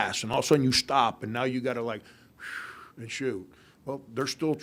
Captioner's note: exhales